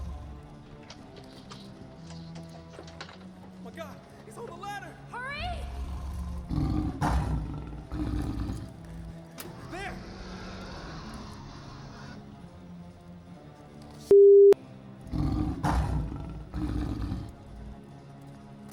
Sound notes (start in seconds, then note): 0.0 roars; 0.1 dramatic music; 7.5 growls; 14.6 dramatic music